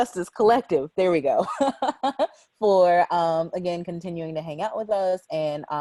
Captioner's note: laughs